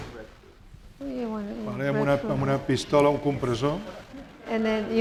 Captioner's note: speaking spanish